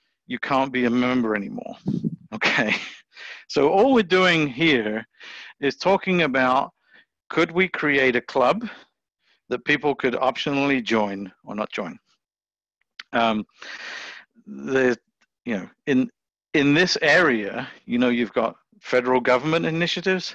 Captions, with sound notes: You can't be a member anymore." [chuckles] All we're doing here is talking about, could we create a club that people could optionally join or not join? In this area, you've got federal government initiatives,